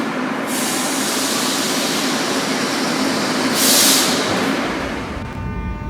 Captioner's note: opening doors